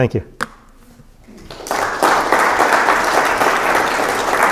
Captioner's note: applause